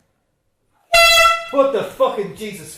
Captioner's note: honk